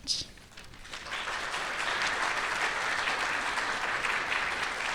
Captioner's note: audience clapping